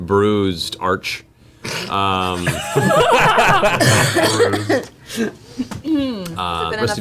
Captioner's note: all laugh